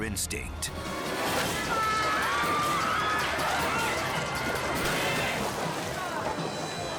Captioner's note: water splashing; spectators screaming